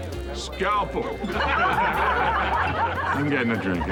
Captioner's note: all laugh